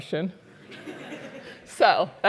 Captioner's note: laugh